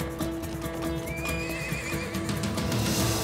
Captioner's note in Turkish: At kişneme sesi